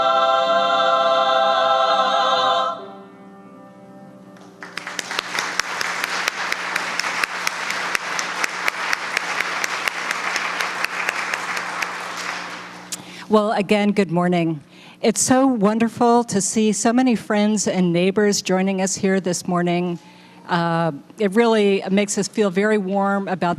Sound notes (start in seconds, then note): 2.5 applause